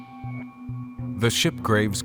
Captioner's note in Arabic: الصوت المنطوق باللغة الأجنبية